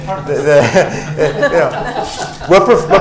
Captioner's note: laughter